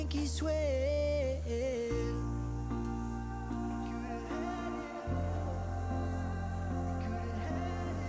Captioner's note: laughs